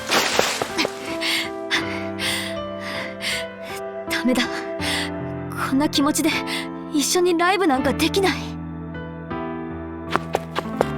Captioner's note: out of breath